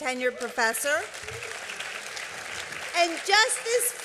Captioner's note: applause